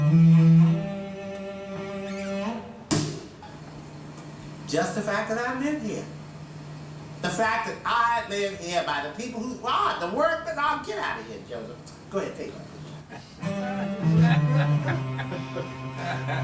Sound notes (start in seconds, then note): 13.0 laughs